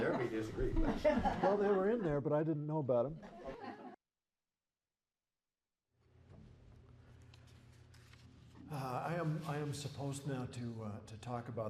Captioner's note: laughter